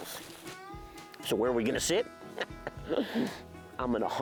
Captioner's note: laughs